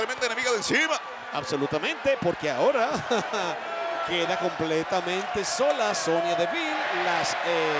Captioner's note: laugh